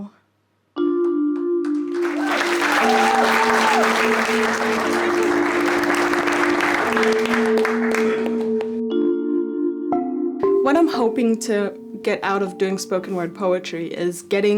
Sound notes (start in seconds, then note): 1.4 crowd cheers and claps; 2.0 ambient music begins